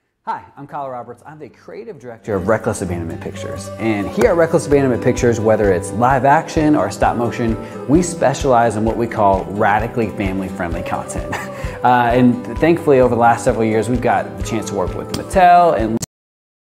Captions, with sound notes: Hi, I'm Kyle Roberts, I'm the creative director (upbeat music) of Reckless Abandonment Pictures, and here at Reckless Abandonment Pictures, whether it's live action or stop motion, we specialize in what we call "radically family friendly content." (chuckles) And thankfully, over the last several years, we've got the chance to work with Mattel and...